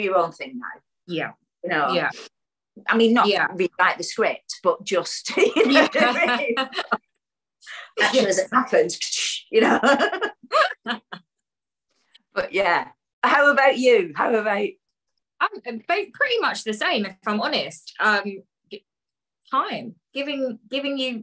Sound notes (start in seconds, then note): 10.9 laughs